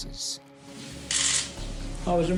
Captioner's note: camera shutters clicking